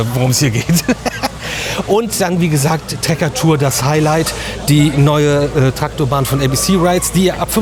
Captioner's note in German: gelächter